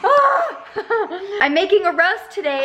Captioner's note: laughs